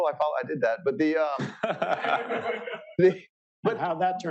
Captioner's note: laughter